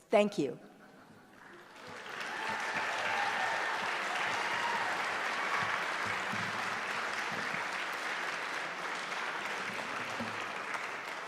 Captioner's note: applause